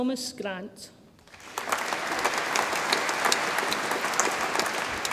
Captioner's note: audience applauds